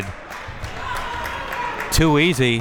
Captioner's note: spectators applauding